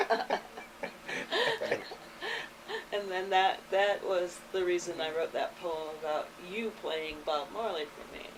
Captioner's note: all laugh